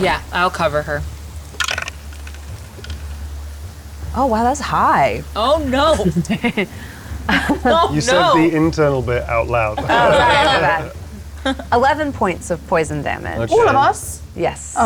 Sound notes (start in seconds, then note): 1.5 dice rolling; 11.5 laughs